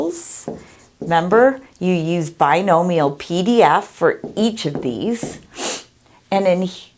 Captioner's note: sniffles